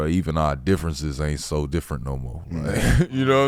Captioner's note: laughs